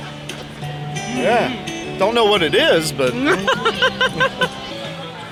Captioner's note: laughing